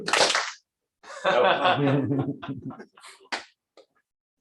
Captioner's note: clap